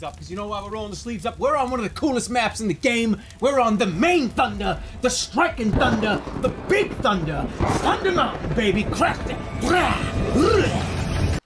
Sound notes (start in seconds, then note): 4.4 thunderclap